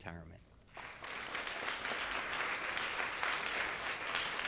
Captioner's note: audience claps